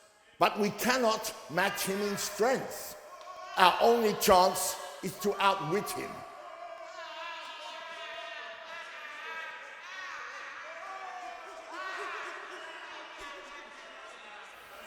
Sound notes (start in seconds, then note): 7.5 background bedlam of the insane asylum